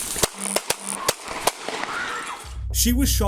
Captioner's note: gun shots echoing